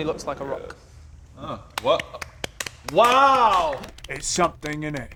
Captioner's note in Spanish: Aplausos sarcásticos